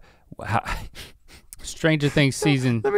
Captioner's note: Rhett laughing